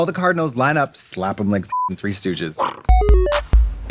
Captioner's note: beeping; bright electronic music